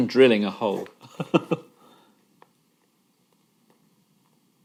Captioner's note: laughing